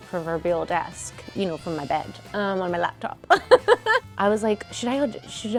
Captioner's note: laughs